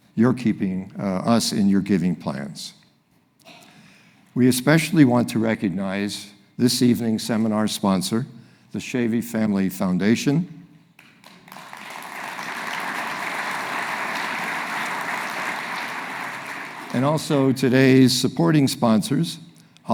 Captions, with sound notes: you're keeping us in your giving plans. We especially want to recognize this evening seminar sponsor, the Schoewe Family Foundation, (audience applauding) and also today's supporting sponsors